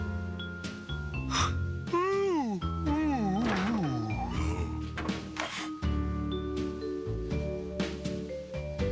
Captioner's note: yawn